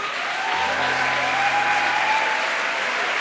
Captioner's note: applause